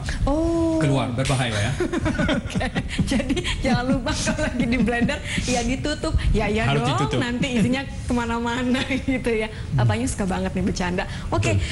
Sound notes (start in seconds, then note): 0.0 non-english speech; 1.6 laughter; 3.8 non-english speech; 6.8 non-english speech